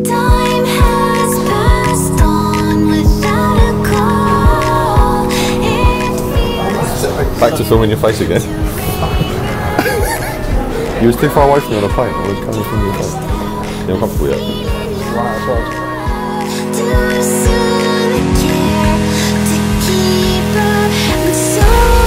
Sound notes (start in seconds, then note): 9.5 laughs; 15.0 music drowns out conversation